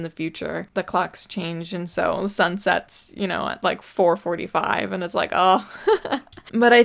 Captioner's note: laughs